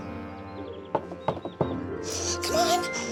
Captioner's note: knocking